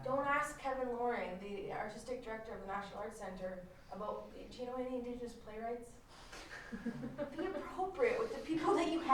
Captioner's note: laughter